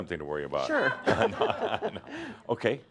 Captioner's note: some chuckles